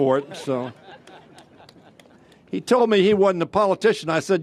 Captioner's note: laughter